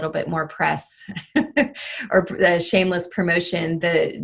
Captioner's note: chuckles